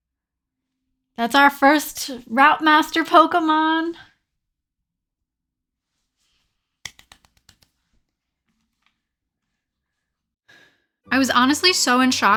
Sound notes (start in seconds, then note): 6.8 clapping